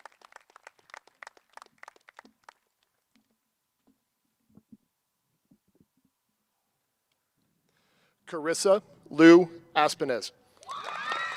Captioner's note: cheers and applause